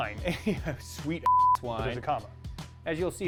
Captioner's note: chuckles; beep